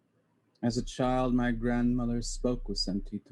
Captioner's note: foreign language spoken